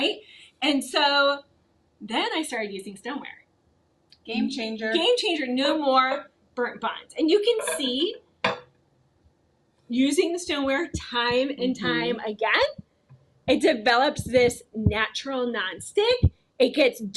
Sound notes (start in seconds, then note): 7.6 stoneware clinking